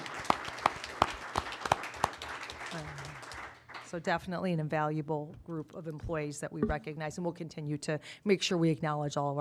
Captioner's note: applause